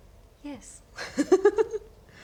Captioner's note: giggles